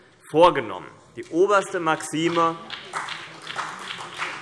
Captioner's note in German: Beifall CDU und BÜNDNIS 90/DIE GRÜNEN